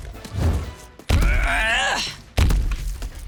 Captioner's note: grunting